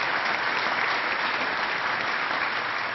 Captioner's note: applause